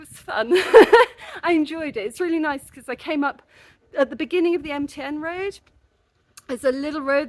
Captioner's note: laughing